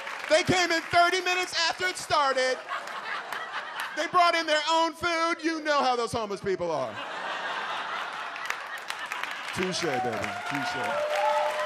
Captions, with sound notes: they came in 30 minutes after it started. They brought in their own food. You know how those homeless people are." (audience laughs) Touché, baby. Touché.